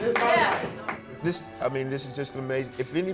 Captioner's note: crowd clapping